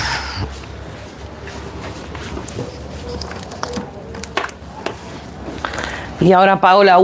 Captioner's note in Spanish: suspiro